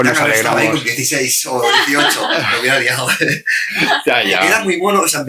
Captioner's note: risas